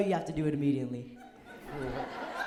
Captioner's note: laughter